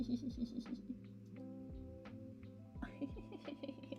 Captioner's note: laughing